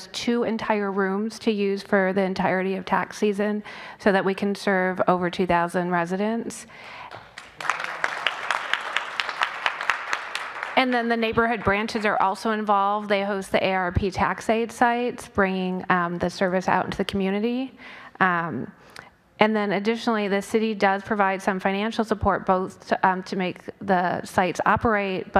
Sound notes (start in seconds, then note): 9.0 applause